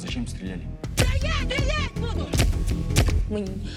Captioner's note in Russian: выстрел